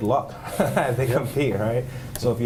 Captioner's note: laughter